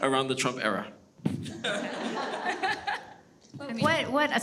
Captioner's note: everyone chuckles